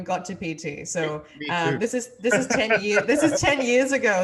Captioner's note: laughs